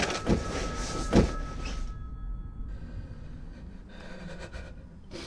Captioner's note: phone rings